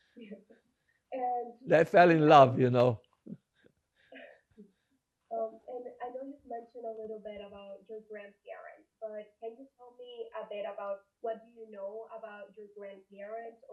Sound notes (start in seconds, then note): 1.8 laughing